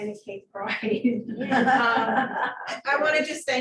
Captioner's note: laughter